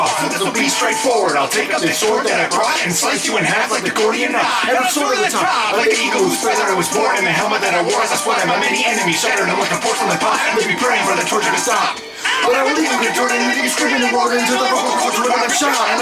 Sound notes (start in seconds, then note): 12.2 aaah!